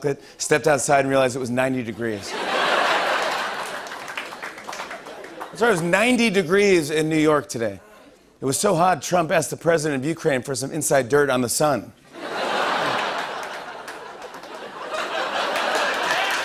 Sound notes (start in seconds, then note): 12.1 laughter